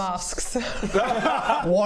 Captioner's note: winning laughter